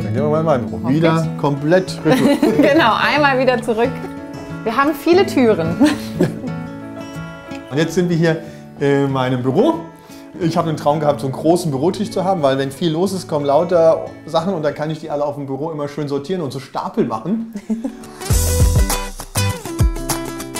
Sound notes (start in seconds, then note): 5.7 laughs; 18.8 loose music